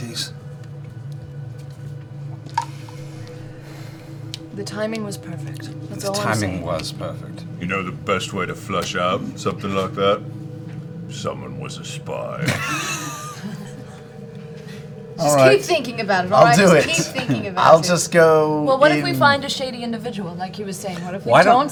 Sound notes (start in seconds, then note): 12.4 laughter